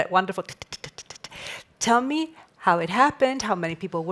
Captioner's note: clicking